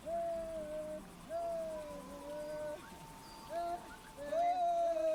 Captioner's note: street noises